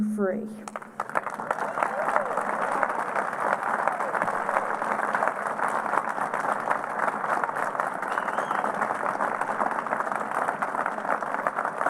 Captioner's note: applause